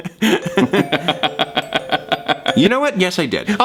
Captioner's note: Deceit laughs